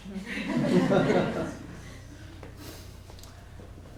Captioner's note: laughter